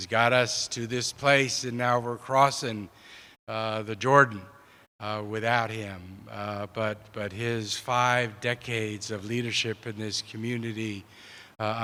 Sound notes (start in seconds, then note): none